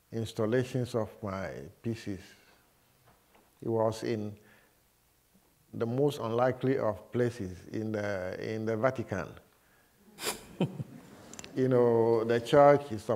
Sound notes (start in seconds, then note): 10.2 laughter